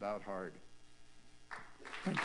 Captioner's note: applause